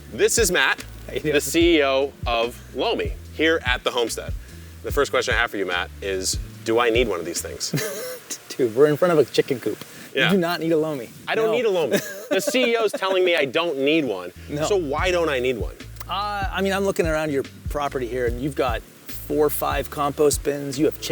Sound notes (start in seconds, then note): 7.7 laughs